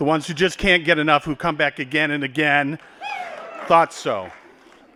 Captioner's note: applause